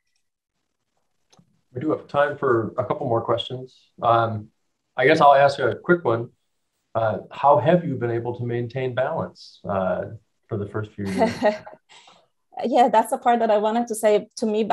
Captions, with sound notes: - We do have time for a couple more questions, I guess I'll ask you a quick one. How have you been able to maintain balance, for the first few years? (laughing) - Yeah, that's the part that I wanted to say to me,